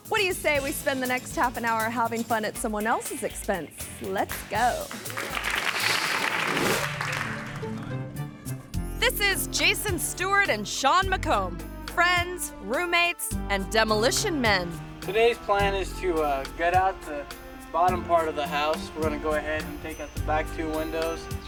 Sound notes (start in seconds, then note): 4.6 audience applauding